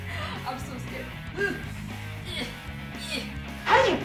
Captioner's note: desperate grunts in attempt to flip